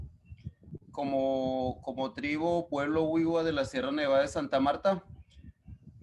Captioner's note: speaking Spanish